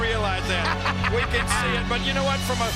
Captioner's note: laugh